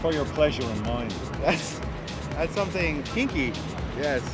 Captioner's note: laughs